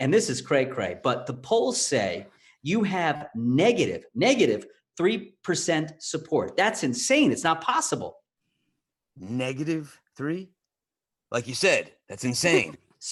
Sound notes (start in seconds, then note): none